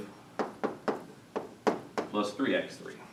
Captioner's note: chalk tapping